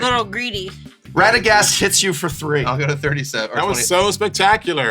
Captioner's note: laughing